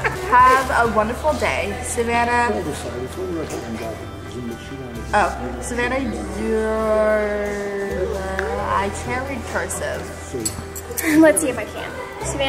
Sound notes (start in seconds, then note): 2.7 background murmuring